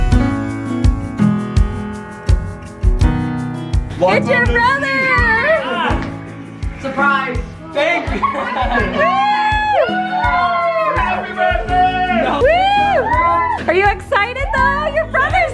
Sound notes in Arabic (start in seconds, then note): 7.8 هتاف جماعي; 7.8 يضحك